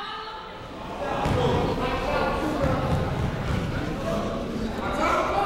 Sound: people shouting in the crowd

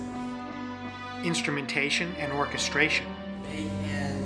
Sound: voiceover

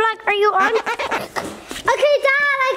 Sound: glass squeaking

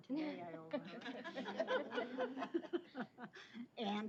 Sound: laughter

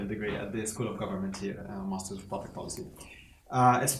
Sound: speaks quietly

